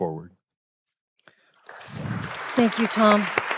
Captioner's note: applause